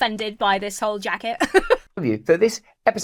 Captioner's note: laughs